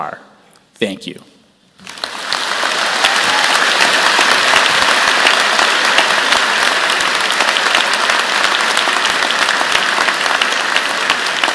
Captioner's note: applause